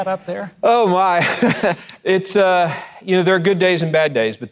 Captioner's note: laughs